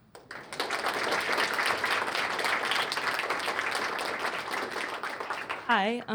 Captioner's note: applause